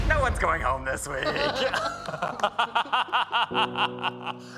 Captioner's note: all chuckling